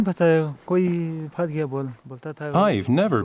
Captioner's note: speaking foreign language